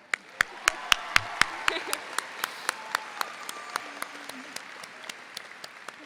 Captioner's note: audience applauds; laughs